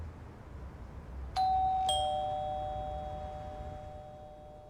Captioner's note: bell rings